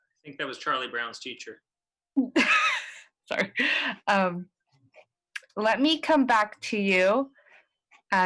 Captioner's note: laughter